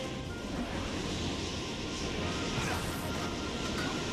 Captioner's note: none